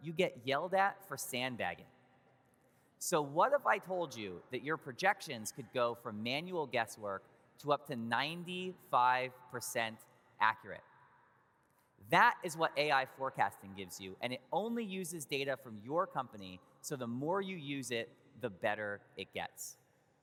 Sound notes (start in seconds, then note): none